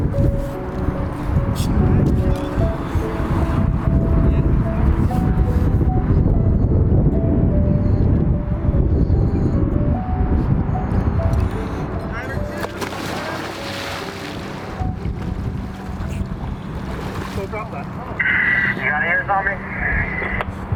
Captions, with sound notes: (wind blowing) (gentle piano music) (water splashing) You got ears on me?